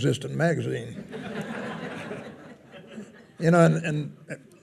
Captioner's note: attendees laughing